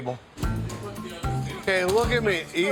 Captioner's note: foot thumping